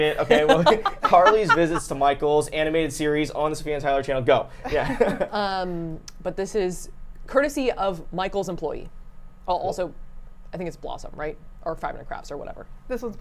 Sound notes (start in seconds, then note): 5.3 laughing